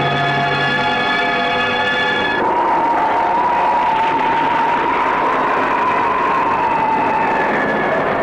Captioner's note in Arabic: هبوب الريح; هدير الرعد